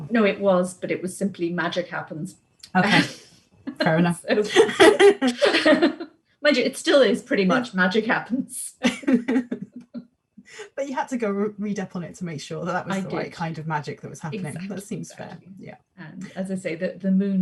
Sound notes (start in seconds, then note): 3.7 laughs; 12.7 laughs